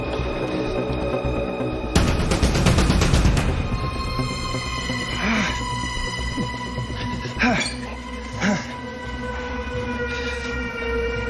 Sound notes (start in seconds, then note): 4.9 grunts; 7.2 exhales heavily